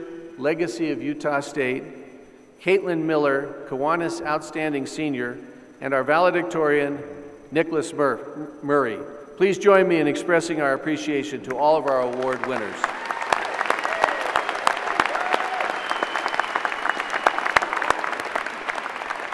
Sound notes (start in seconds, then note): 11.8 applause